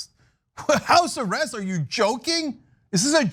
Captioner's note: laugh